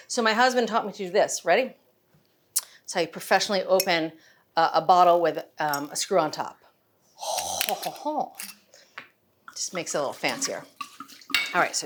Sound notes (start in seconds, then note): 7.3 bottle lid clicking